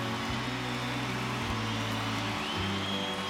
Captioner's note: crowd cheering